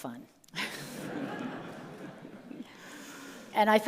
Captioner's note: all laugh